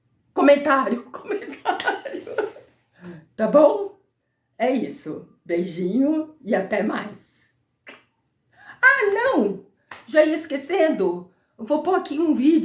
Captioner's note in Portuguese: risadas